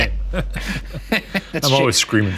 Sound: laughing

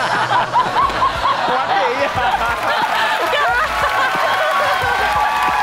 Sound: laughing

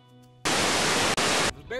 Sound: static

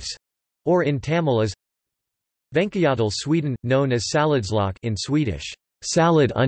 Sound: in Swedish

